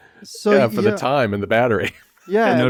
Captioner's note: laughs